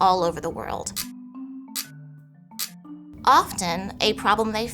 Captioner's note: lively music; screen clicking